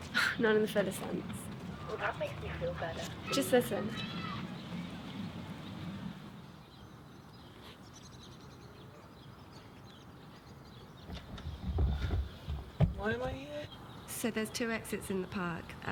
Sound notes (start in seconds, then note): 4.0 kids playing; 5.1 birds chirping